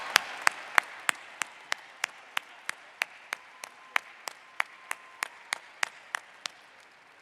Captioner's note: applause